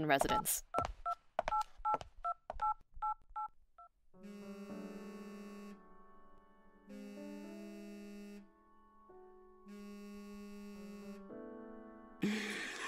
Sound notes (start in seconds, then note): 1.4 phone dials; 5.4 phone vibrates